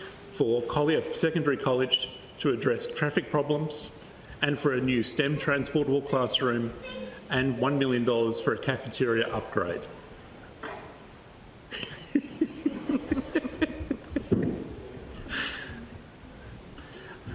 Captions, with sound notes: For Collier Secondary College to address traffic problems and for a new STEM transportable classroom and $1 million for a cafeteria upgrade. [Child makes noise] [Laughter]